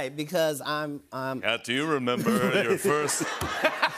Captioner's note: deep voice; laughter